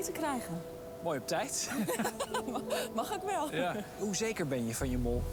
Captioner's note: laughter